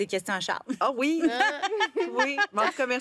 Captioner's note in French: rires